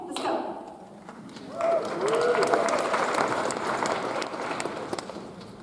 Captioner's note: audience applauds